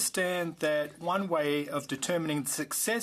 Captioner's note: speaking French